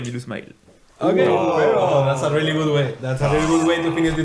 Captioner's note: appreciative noises